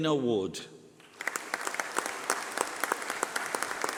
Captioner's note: applause